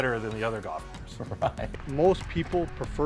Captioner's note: laughing